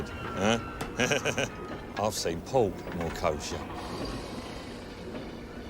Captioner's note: laughs